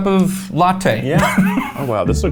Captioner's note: laughing